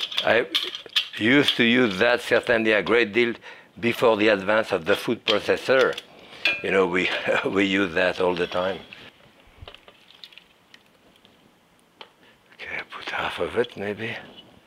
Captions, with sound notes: before the advance of the food processor. We used that all the time. (peas sloshing) Okay, I put half of it, maybe.